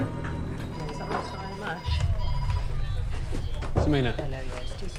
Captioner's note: phones ringing; people chattering